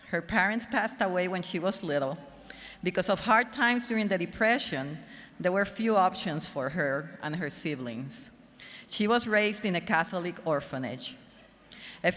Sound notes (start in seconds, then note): none